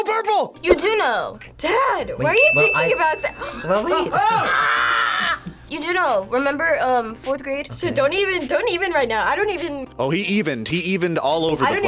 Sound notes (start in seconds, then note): 2.9 gasps; 3.3 React laughs; 4.1 screams